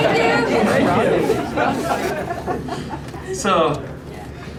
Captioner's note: laughter